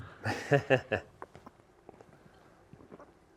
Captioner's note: laughs